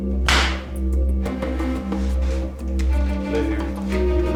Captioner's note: glass shatters